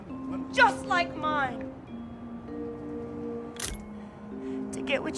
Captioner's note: camera clicks